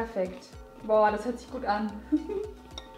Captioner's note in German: lacht